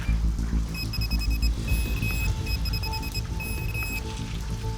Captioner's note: rapid beeping